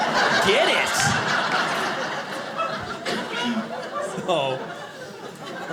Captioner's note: audience laughing